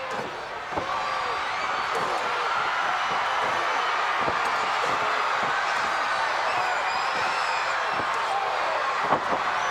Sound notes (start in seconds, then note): 1.0 crowd cheering